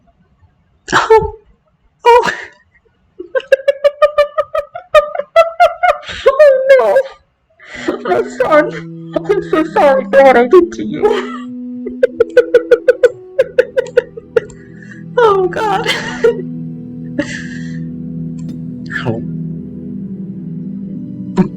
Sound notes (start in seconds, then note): 3.2 laughter; 8.5 continuing laughter